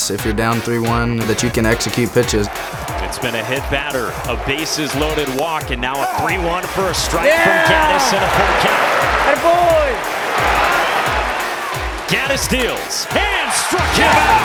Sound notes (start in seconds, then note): 9.4 cheering